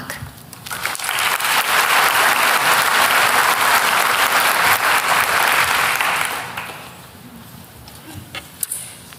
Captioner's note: applause